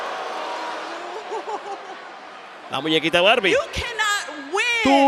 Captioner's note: applause